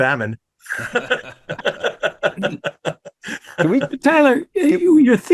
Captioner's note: all laughing